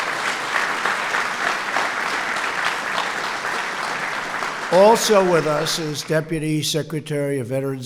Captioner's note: applause